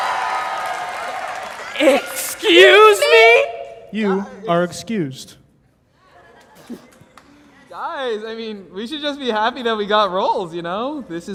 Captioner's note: applause